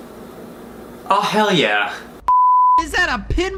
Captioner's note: beep